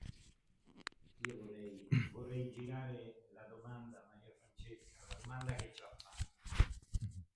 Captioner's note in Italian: schiarire la voce